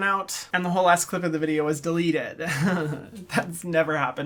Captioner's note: laughs